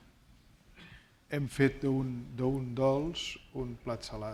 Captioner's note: speaking spanish